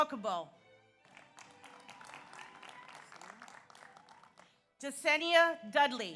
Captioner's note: audience applauds; audience cheers